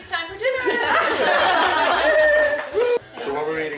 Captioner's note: family laughing